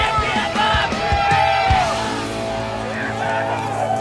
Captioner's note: people cheering